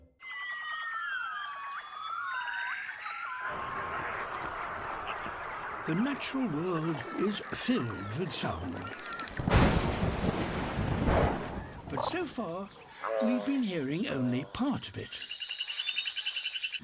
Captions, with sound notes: (ANIMALS HOOT AND CHATTER) The natural world is filled with sound. (THUNDERCLAP) But so far, we've been hearing only part of it. (CHITTERS)